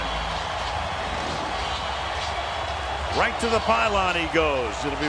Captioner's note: cheering